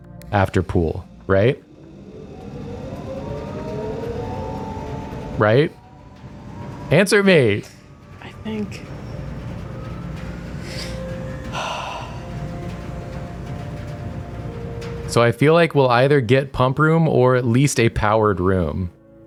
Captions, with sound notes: after pool, right? Right? Answer me! (quietly) I think. [concerned sigh] So I feel like we'll either get pump room or at least a powered room.